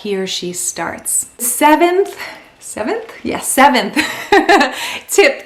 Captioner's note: laughs